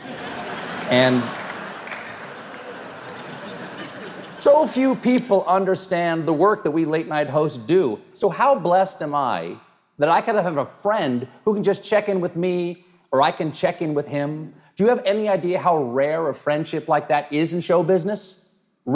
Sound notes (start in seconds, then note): 0.0 audience laughs